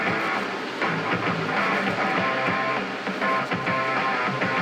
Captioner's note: upbeat rock music; machines whirring